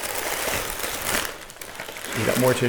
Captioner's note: tissue paper crinkling